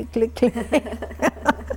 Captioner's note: laughter